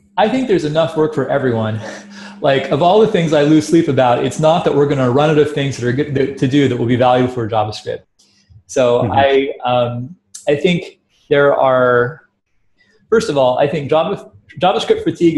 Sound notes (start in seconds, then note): 1.6 laughs